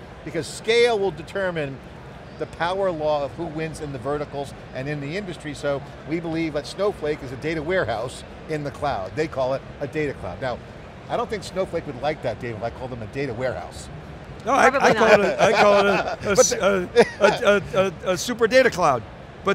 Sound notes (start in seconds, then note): 14.5 laughs